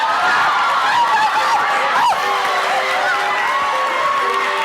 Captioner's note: cheering; light music